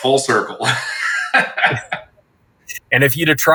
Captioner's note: both laughing